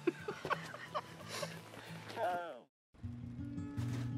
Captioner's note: laughs